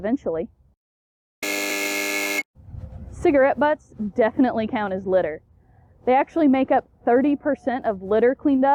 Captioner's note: buzzer